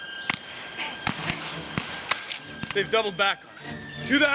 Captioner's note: gunfire